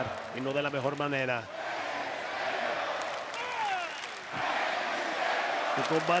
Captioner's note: applause